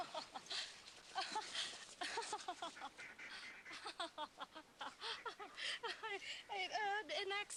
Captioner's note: laughing awkwardly